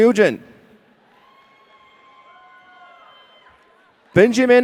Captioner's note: audience cheering